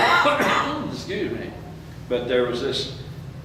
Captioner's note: coughs